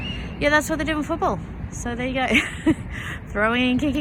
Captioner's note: chuckles